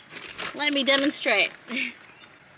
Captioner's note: chuckles lightly